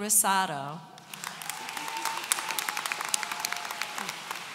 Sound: audience applauds

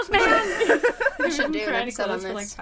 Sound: all laughing

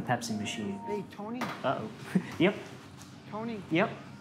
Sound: chuckles

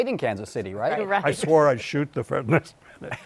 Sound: laughs

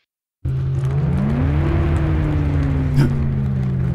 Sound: second engine rumble approaches

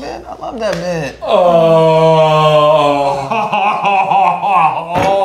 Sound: continuing to moan

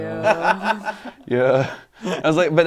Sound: laughing

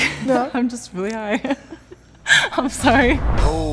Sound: laughing

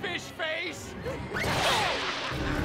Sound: laughing

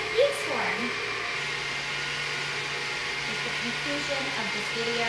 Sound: mixer roaring

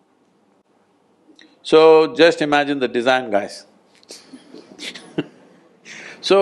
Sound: laughs

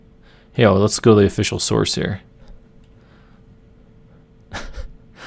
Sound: laughing

